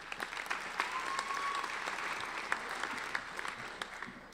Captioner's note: applauding